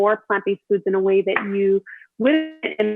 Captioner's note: audio distorts